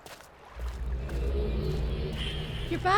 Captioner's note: linking sound